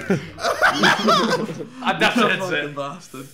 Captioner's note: laughing